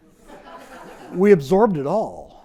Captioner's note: audience laughs